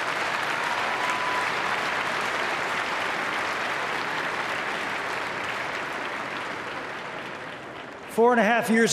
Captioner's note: applause